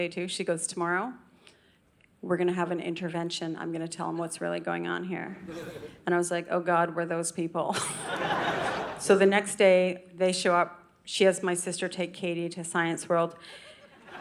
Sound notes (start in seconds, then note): 7.8 audience laughing